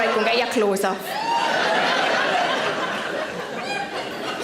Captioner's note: audience laughs